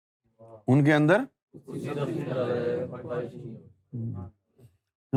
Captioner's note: audience replies